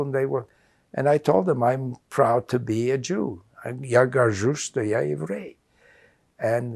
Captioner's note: russian